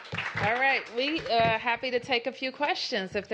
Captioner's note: applause